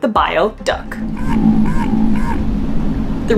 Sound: noise abruptly fluctuating between low & medium pitch

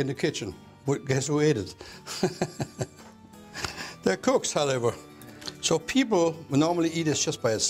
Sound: laughs

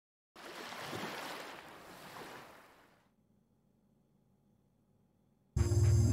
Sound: sound of waves

